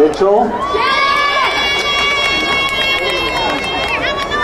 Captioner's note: crowd cheering